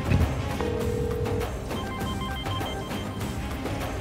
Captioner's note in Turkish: Telefon çalıyor